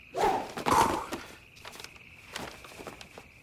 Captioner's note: exhales sharply